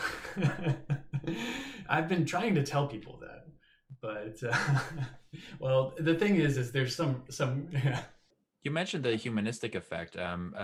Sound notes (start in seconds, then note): 1.9 laughs